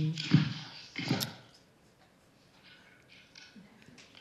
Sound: soft tapping

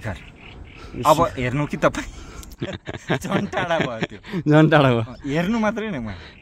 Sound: laughter

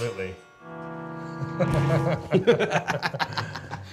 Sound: laughing

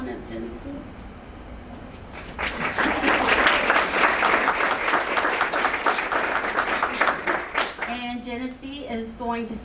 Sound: applause

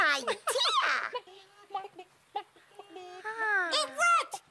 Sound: gasp; elmo giggles; abby sighs of relief; chickens silently cluck

